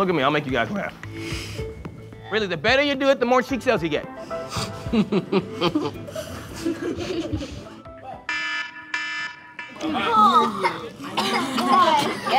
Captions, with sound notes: Don't look at me, I'll make you guys laugh. Really, the better you do it the more cheek cells you get! (Campers swishing saline solution and laughing) (phone claxon sounds) Oh God! Ew!